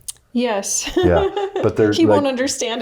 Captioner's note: laughs